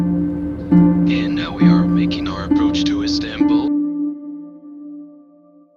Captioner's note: intercom voice